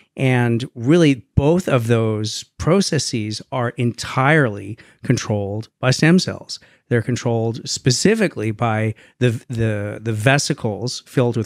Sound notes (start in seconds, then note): none